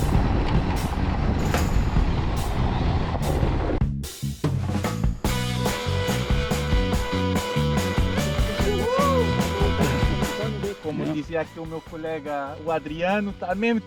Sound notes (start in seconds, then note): 11.5 with an accent